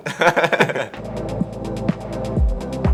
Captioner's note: laughing; upbeat music